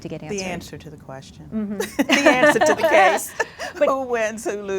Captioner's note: laughs